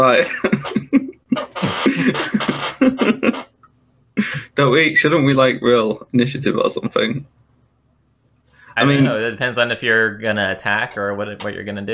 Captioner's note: laughter